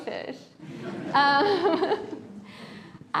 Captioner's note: laughter